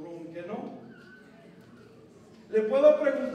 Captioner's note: non-english speech